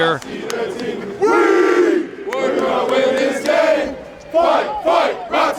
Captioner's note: team chanting